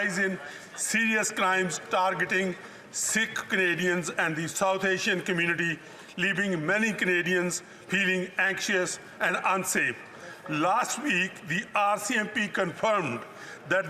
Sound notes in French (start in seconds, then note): 1.0 voix de l'interprète